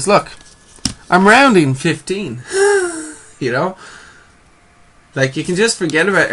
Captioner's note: wheezes